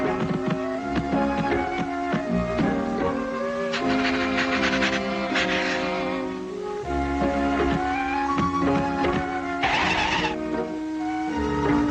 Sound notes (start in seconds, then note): 0.3 light, airy music continues; 2.9 Salomi sniffing; 6.1 light, airy music